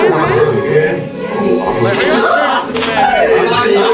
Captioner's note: laughs